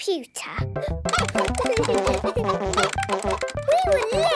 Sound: keyboard tapping; computer game chickens clucking

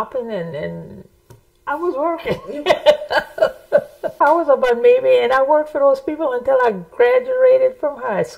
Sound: laughs

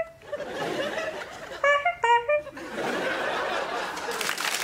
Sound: makes horn noises

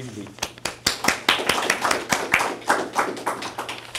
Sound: applause

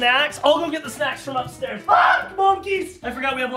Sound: screaming

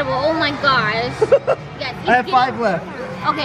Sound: laughs

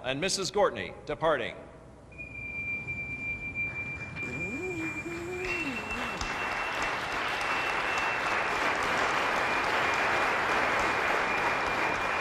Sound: applause

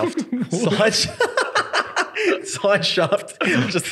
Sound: laughing

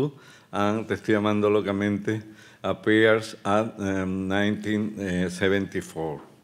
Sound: speaking Spanish

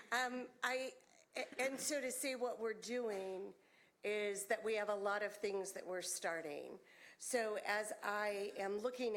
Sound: laughter

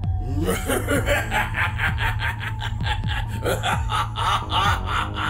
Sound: Krogarr laughing wickedly

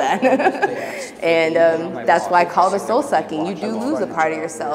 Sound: laugh

